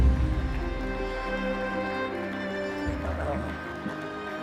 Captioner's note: crowd applauds